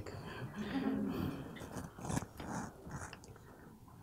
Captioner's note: people chuckle